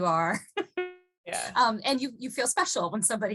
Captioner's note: laughing